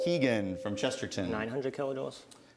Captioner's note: ding